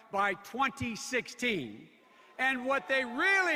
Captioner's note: audience boos